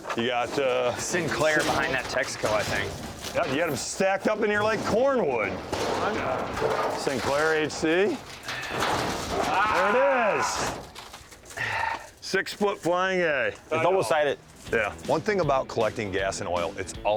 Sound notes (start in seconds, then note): 11.4 sighs